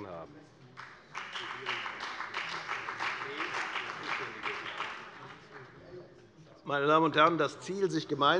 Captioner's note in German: Beifall bei der FDP und bei Abgeordneten der CDU